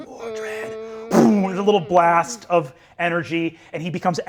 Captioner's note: poofs